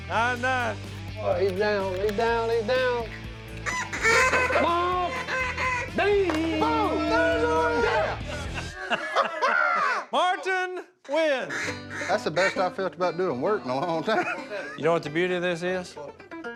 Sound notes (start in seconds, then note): 3.6 duck calls quacking; 6.9 group yelling and laughing